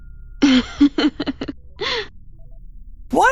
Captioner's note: laughs